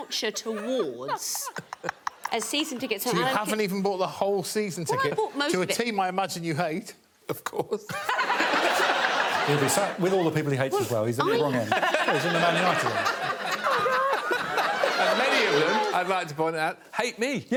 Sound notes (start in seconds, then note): 8.0 audience laughing; 13.4 all laughing